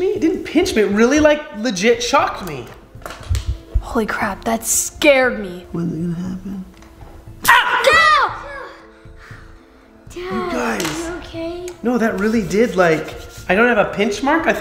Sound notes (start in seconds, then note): 7.5 boys screaming